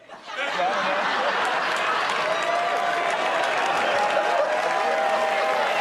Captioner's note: laughter